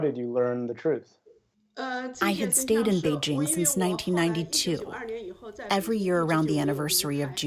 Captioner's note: through translator